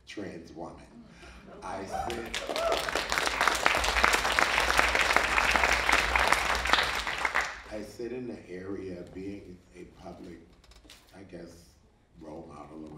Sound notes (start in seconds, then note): 1.6 audience cheering; 1.6 audience applauding